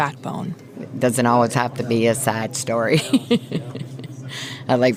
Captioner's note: laughter